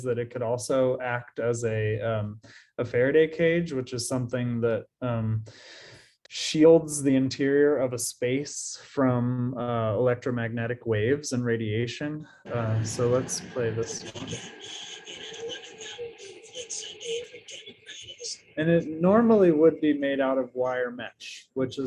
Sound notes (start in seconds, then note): 14.4 radio whirring